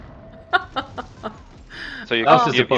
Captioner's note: laughs